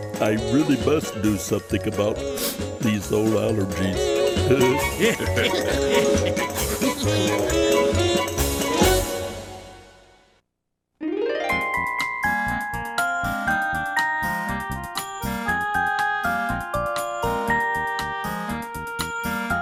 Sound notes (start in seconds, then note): 4.4 Snuffy laughing; 4.5 everyone laughing